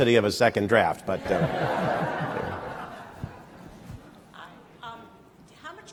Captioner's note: laughter